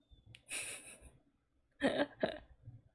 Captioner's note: laughs